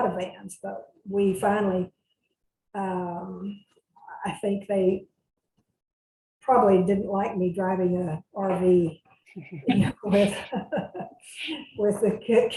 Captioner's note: laughs